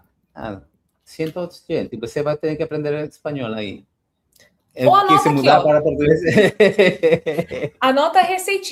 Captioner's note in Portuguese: risadas